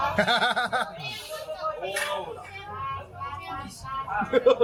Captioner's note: laughs